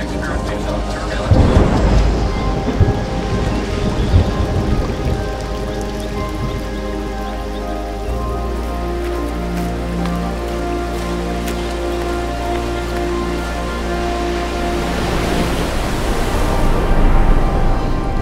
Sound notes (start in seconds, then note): 3.3 rain falling; 6.6 birds calling; 8.4 footsteps; 15.2 water rushing